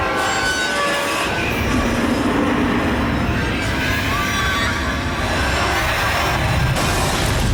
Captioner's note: train horn; breaks squeal; crashing